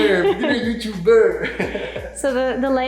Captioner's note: chuckles